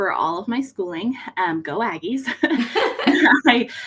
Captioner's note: both laugh